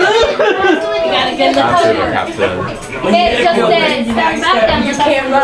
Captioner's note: people chattering